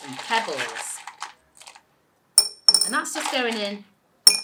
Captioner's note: pebbles clattering